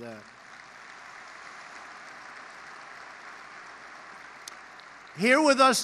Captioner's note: applause